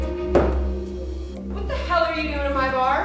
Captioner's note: bottle thuds